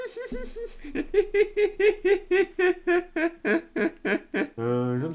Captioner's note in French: Rires